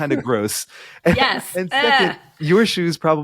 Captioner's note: chuckling